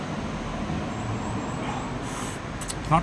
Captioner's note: sips